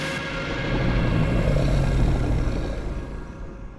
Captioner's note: deep growl